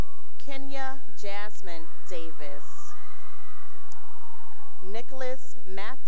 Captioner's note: cheering